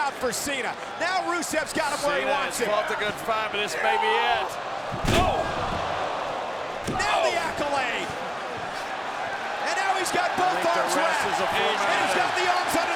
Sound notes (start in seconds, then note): 4.8 body thudding; 6.7 blow thudding